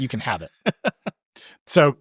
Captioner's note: laughing